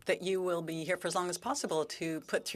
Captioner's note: speaking French